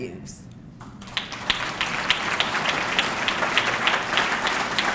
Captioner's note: audience clapping